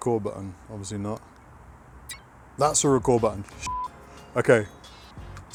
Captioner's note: beep